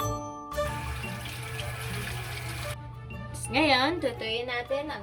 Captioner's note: water pouring